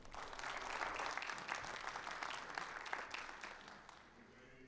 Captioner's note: audience applauding